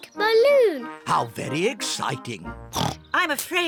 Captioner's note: oinks